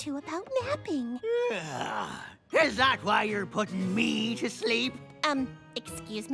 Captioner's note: yawn